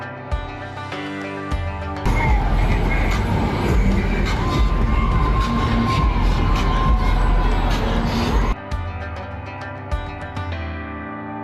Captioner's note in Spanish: gritos